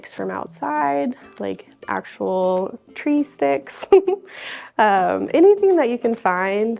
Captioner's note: laughs